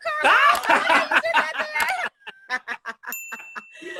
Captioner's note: both laugh